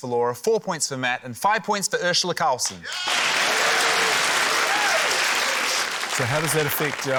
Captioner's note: cheering, applause